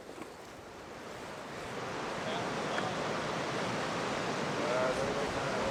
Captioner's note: water rushing